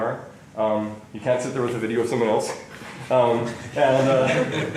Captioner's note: laughter